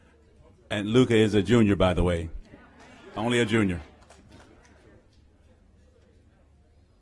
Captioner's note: applause